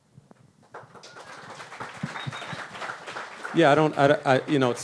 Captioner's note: audience claps